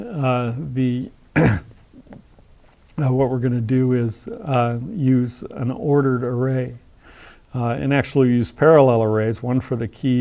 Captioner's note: cough